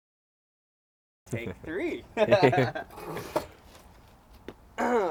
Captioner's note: laughs